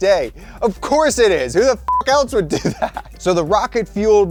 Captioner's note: beeping